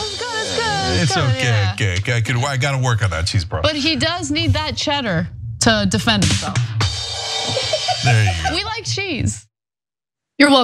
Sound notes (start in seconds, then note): 7.4 laugh